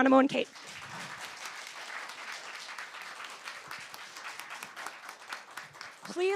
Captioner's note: applause